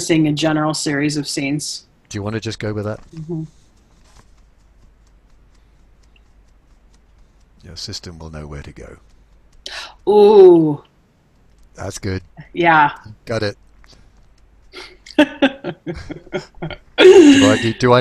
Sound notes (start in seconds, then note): 4.2 fingers tapping softly; 9.6 gasps; 14.8 laughs